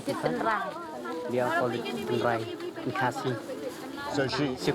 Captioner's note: speaking in foreign language